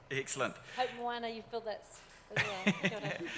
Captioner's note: murmurs; laughs